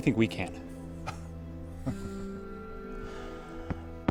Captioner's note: chuckles